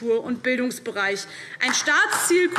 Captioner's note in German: Beifall DIE LINKE